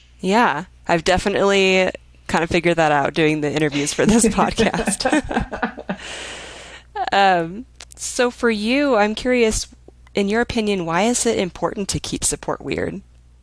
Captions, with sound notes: - Yeah, I've definitely kind of figured that out, doing the interviews for this podcast. (women laughing) So for you, I'm curious in your opinion, why is it important to keep support weird?